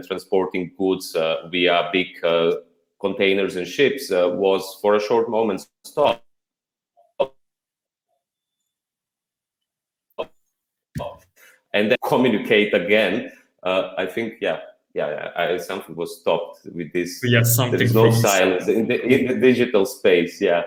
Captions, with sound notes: transporting goods via big containers and ships was for a short moment stopped [audio cuts out] ... and then communicate again. I think, yeah, something was stopped in the digital space.